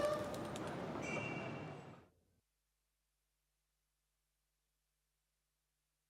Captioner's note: wings fluttering; automobile horn beeping